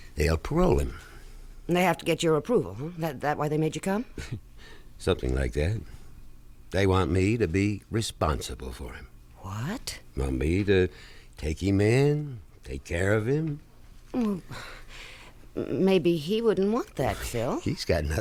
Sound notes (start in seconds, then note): 5.0 chuckles